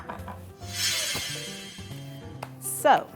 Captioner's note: shimmering